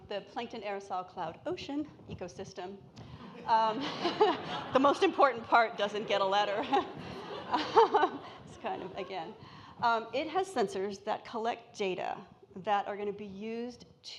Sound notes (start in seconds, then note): 3.3 audience laughing; 6.6 laughs